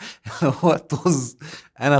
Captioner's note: laughs!